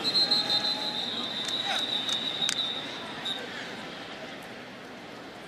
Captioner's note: whistling